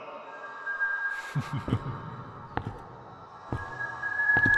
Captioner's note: Deck chuckles